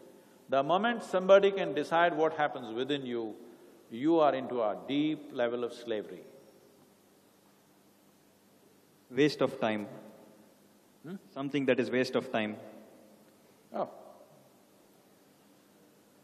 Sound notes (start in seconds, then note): none